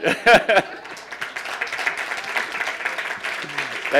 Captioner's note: applauding